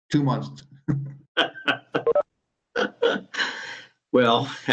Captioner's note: laughing